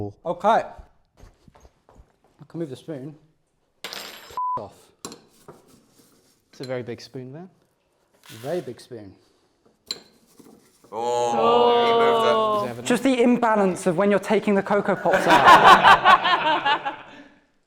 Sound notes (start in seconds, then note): 10.9 they ooh; 14.9 laughter